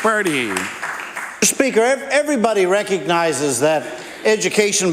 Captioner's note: applause